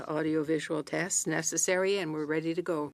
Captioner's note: speaking French